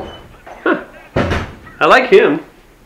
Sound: door opens; door closes

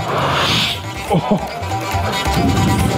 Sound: air whooshing; upbeat music

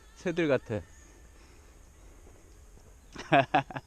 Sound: hehehe

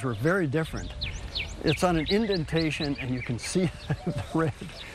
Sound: chuckles

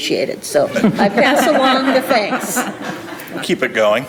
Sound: group laughing

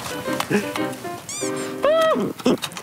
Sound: screaming

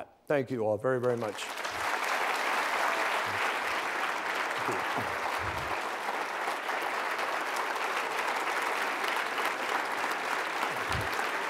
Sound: applause

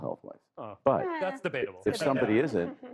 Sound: chuckling

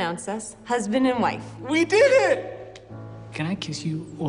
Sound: laughs

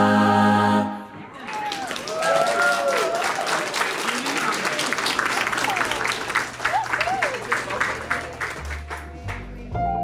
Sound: audience clapping

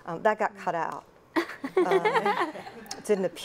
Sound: laugh

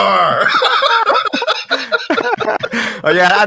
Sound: both laugh

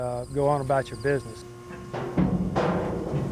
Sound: device humming; metal clanking

